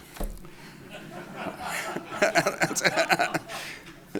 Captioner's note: laughter